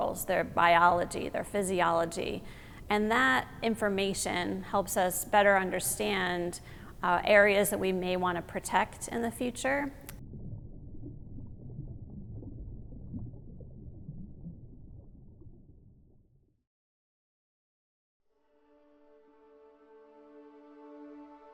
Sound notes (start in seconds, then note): 10.6 water gurgling; 18.4 gentle music